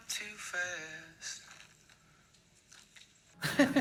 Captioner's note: faint trickling over phone; laughter